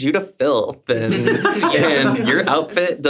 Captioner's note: everyone laughs